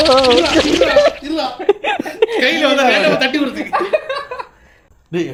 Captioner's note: laughter